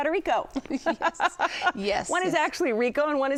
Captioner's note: laughing; laughs